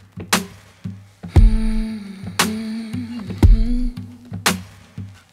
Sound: humming

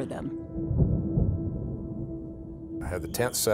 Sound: thunder rumbling

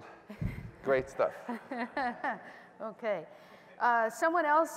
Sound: laughter

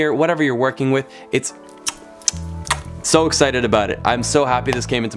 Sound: kissing loudly

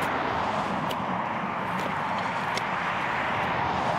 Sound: wind blowing

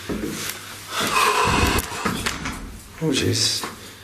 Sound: sighs

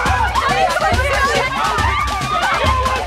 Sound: crowd frantically chattering; women cheer

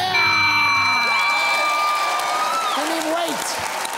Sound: cheering and applause

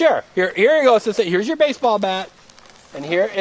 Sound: voiceover

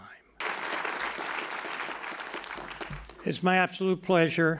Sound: applause

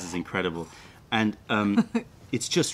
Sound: laughter

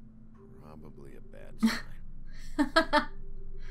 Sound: chuckle

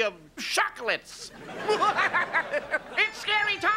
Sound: laughing

